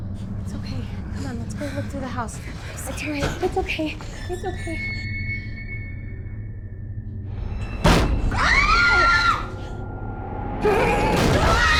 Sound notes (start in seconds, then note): 7.7 bang; 8.7 all screaming